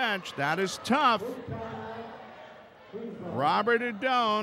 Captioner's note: yelling